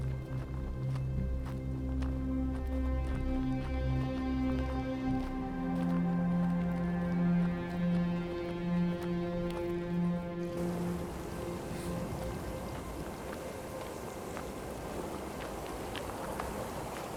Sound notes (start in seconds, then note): 10.4 wind blowing; 10.5 water splashing